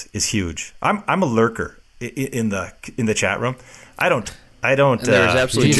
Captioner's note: laughing